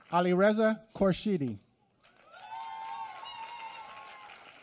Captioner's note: applause